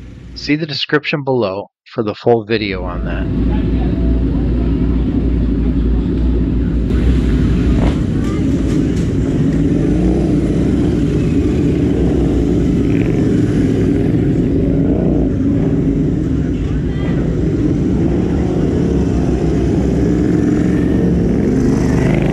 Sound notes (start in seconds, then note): 3.4 motorcycle engine sound